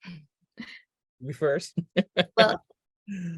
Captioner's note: laughing